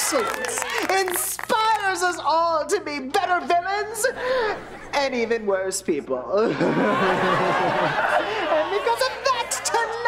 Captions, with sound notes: inspires us all to be better villians and even worse people. [laughing] And because of that, tonight,